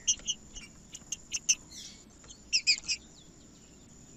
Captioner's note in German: trinca ferro cantando